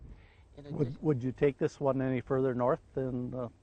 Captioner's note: voiceover